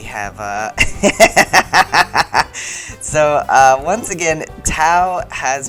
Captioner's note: laughter